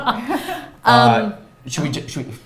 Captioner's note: laughs